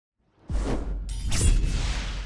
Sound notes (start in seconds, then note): 0.5 swoosh; 1.1 sword slash